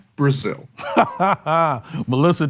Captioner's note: laughs